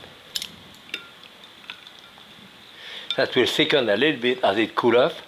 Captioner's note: utensils tapping